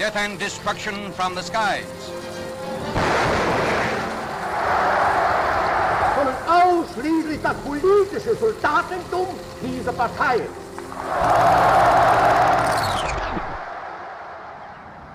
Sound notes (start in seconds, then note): 2.9 explosion booming; 3.6 audience cheers and applauds; 6.3 Adolf speaking in foreign language; 10.8 audience cheers and applauds